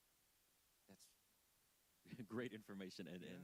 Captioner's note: chuckling